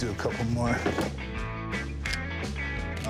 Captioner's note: camera clicking